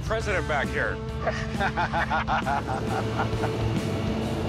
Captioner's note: laughter